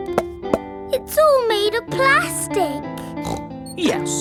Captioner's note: hollow taps; snorts